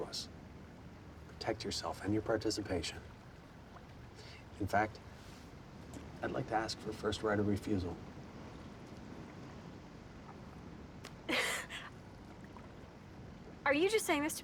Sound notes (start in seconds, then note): 11.3 laughs